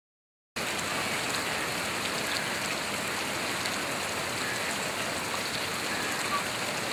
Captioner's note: rain pouring